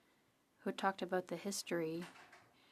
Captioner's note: speaking French